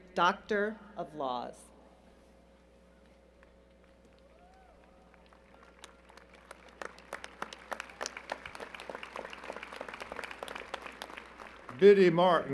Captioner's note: applause